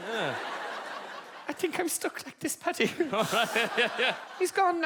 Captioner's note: laughing